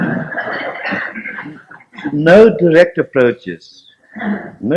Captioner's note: laughter